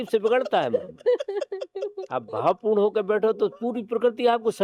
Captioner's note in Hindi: हंसी